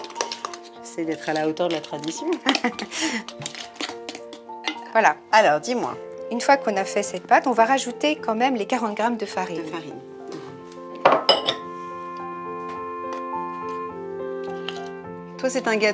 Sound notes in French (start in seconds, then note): 4.5 rires